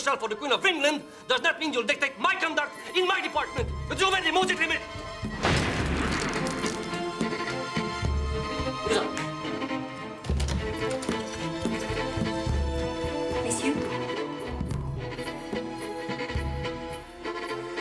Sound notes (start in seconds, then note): 3.8 speaking in foreign language; 5.2 fist pounds; 5.4 table cracks; 9.0 Rene speaks in foreign language; 14.3 dramatic pensive music